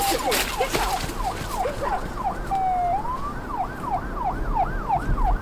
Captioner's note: sound of police sirens